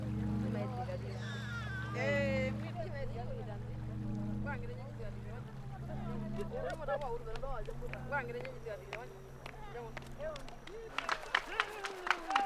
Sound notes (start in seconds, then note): 1.2 baby sobbing; 3.0 indistinct chatter; 11.2 foot stomping